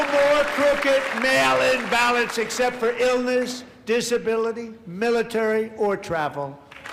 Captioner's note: applause